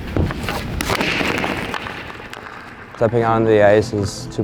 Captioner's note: pucks dropping